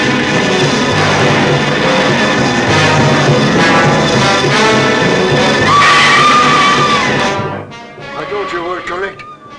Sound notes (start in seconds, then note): 5.7 Mary screams